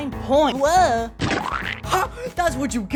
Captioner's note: splat